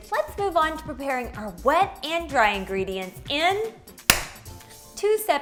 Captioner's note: claps